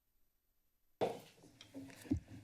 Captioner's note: gavel tap